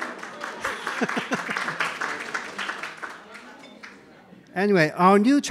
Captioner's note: audience applauds; laughs